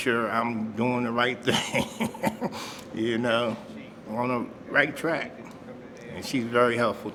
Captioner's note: chuckles